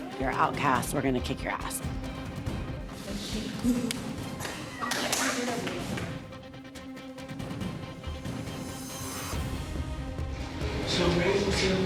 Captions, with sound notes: you're outcast, we're gonna kick your ass. -Does she-- -Ooh! -[laughs] -[indistinct chatter]